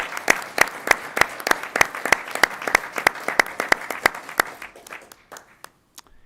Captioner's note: applause